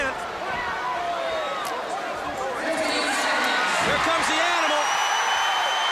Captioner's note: applause